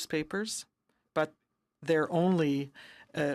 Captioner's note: speaking in french